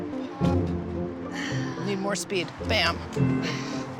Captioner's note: sighs